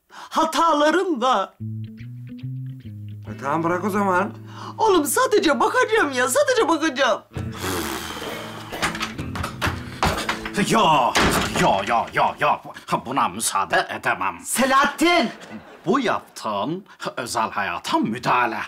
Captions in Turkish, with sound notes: Hataların da. E, tamam, bırak o zaman. Oğlum sadece bakacağım ya, sadece bakacağım. (Kapı açılma sesi) Yok! Yok yok yok yok. Buna müsaade edemem. Selahattin! Bu yaptığın, özel hayata müdahale.